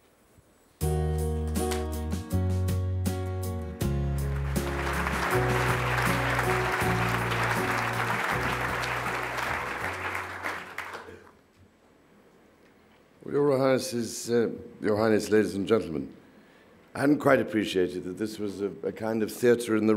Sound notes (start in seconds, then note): 4.1 audience claps